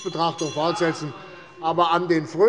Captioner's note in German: Unruhe - Glockenzeichen des Präsidenten